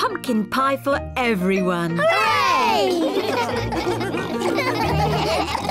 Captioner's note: all laugh